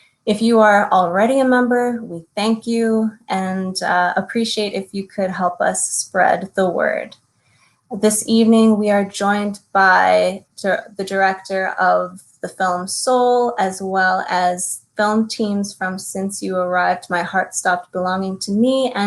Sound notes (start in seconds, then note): none